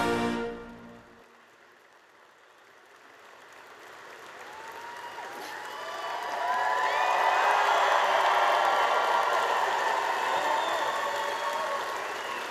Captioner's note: applause